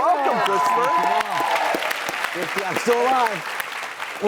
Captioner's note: audience applauding